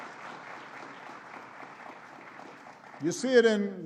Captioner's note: applause